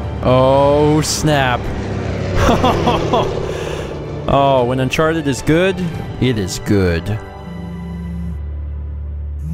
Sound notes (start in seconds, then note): 2.3 laughs